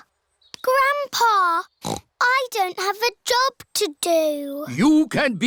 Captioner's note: snorts